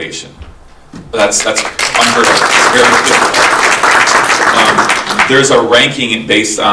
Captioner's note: audience applauding